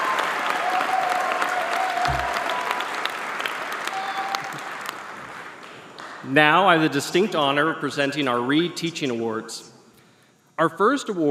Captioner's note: applause